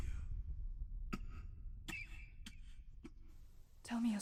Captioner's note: coughs